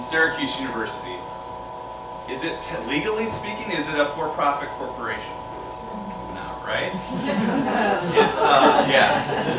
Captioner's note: laughter